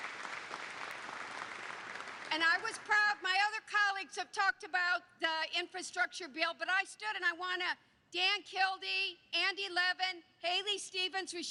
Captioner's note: applause